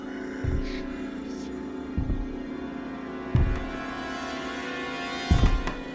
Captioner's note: whispering